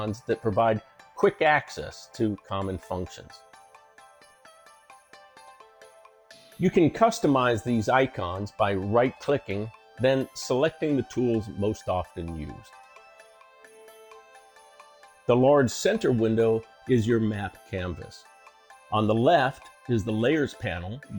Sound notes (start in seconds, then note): 5.2 10 sec pause; 12.8 pause